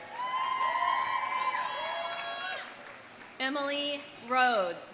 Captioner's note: audience cheering; audience applauding